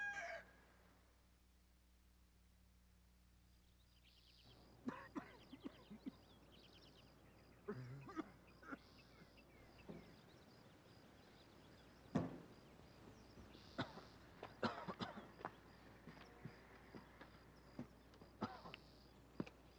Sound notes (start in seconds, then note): 14.5 Chance coughing